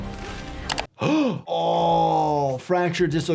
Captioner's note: laughs; gasp